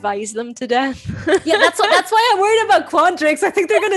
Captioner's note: giggles; chuckles